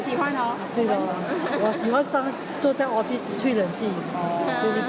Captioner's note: laughs